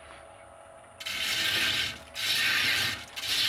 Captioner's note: grinding noises